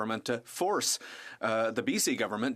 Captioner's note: speaking french